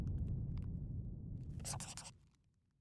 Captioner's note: scribbling